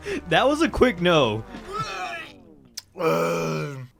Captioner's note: retching